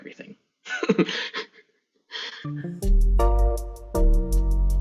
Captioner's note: laughs